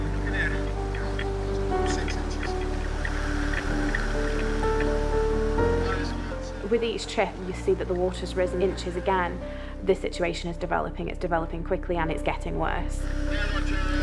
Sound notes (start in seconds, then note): 0.2 gentle music; 3.1 tractor droning; 3.1 water whooshing